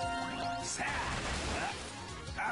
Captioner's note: none